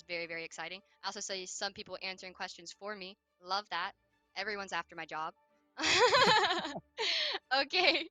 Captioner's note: laughs